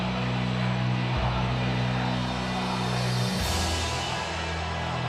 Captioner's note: audience chanting